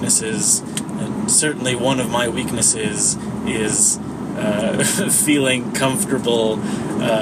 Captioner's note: chuckles